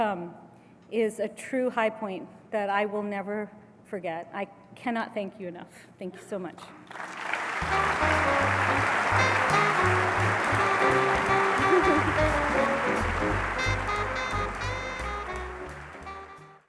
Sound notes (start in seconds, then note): 6.8 applause